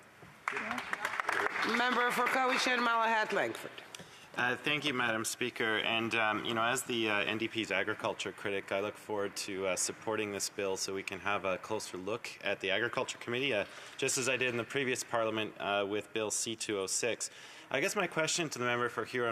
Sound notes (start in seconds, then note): 4.0 some Applause